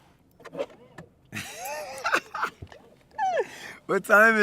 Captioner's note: laughter